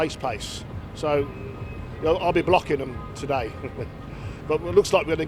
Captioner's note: laughs